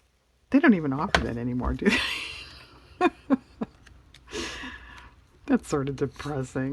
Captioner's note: laughs